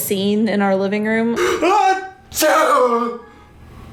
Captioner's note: fake-sneezes loudly